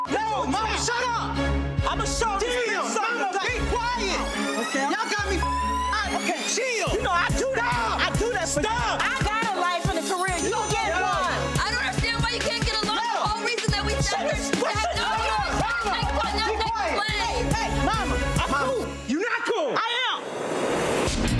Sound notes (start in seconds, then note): 0.0 beep; 5.3 beep; 14.8 indistinct chatter and quarrel